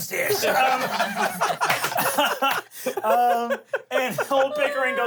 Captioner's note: everyone laughs